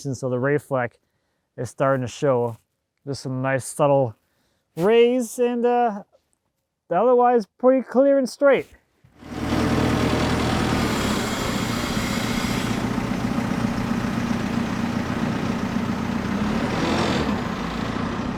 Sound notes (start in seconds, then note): 9.4 engine revving